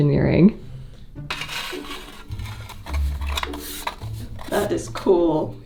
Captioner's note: metal rasping